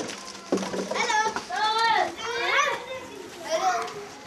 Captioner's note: children calling out